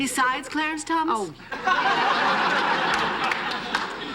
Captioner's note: laughter